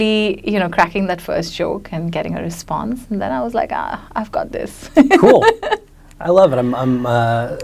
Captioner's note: laughs